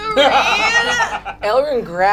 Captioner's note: laughs